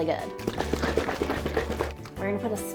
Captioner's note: broth sloshing